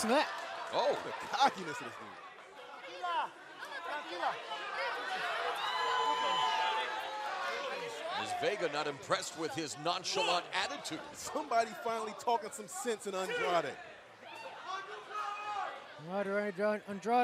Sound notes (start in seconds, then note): 4.5 speaking spanish